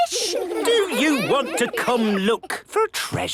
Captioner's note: children giggling